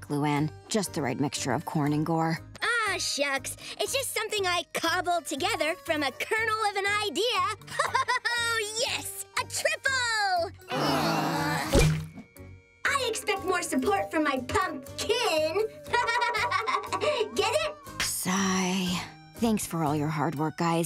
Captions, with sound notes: Just the right mixture of corn and gore. Ah, shucks, it's just something I cobbled together from a kernel of an idea. [laughing] Oh, yes, a triple. [groaning] I expect more support from my pump-kin. [laughing] Get it? Sigh. Thanks for all your hard work, guys.